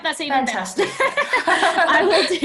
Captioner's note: all laughs